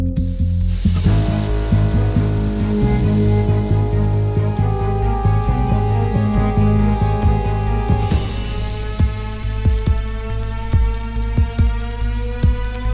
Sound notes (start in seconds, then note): 0.6 gas hissing